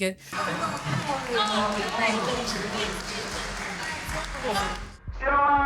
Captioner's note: cheering